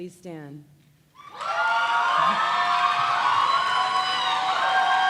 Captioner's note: cheers and applause